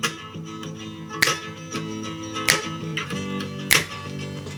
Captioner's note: upbeat music; finger snapping